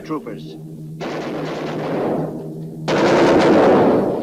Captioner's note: guns firing